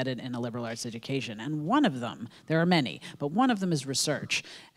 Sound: none

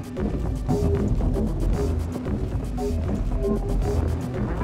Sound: footsteps plod

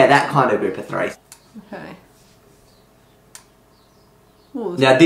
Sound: awkward silence again

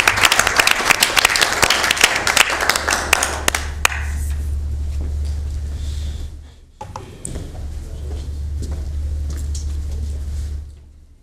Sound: applause

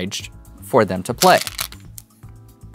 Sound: stones rattling

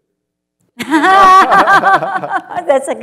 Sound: laughter

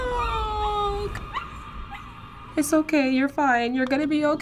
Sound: dog whimpering in pain

